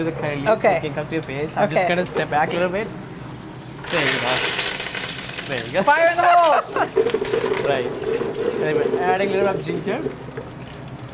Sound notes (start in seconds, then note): 4.9 loud sizzling; 5.7 chef laughs